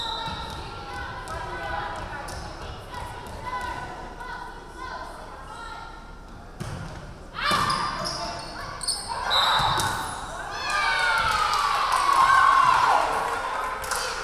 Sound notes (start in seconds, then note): 0.0 referee whistling; 8.9 referee whistling; 10.4 crowd cheering